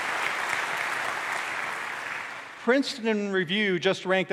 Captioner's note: applause